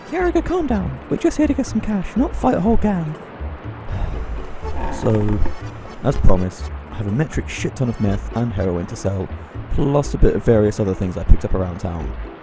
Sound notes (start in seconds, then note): 3.9 sighs